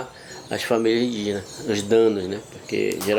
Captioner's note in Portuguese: pássaros cantando